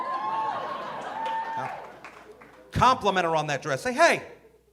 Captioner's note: audience cheering